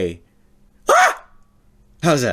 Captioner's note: scream